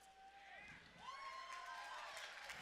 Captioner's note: cheering